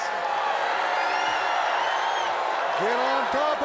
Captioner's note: crowd cheering